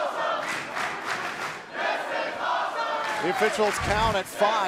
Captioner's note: fans chanting